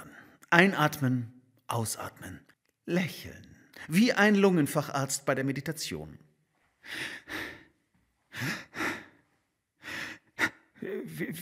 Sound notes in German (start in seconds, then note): 6.2 Hörbare Atemgeräusche